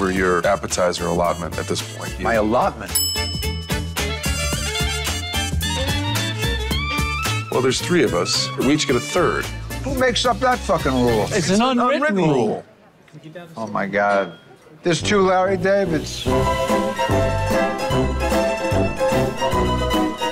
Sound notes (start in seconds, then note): 2.8 bell dings; 15.0 theme plays